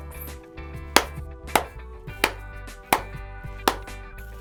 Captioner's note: launcher snapping